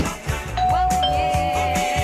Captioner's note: doorbell rings